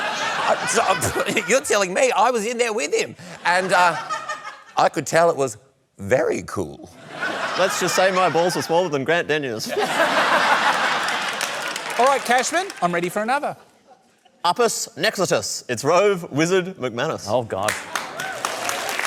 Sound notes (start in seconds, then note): 9.7 laughter, applause